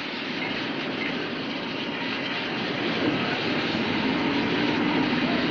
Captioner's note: heavy machinery roaring